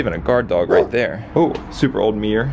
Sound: dog bark

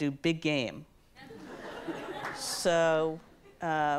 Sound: audience laughs

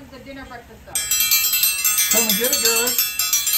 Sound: bell ringing

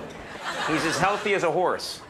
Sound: audience laughs

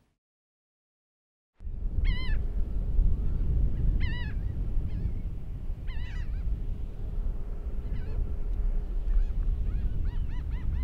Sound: beach soundscape

